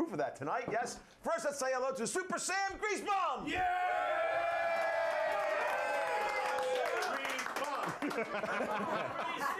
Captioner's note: audience cheering